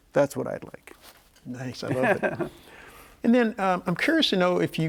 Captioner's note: laughs